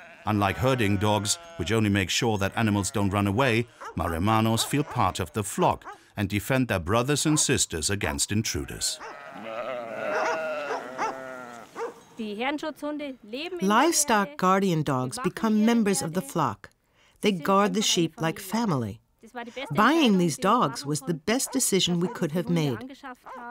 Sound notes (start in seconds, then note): 8.4 sheep bleating; 11.7 speaking in foreign language